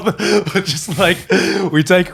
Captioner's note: laughing